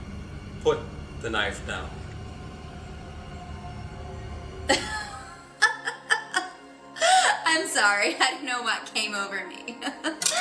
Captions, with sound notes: Put the knife down. (Crazy laugh) I'm sorry. I don't know what came over me. (Continues laughing)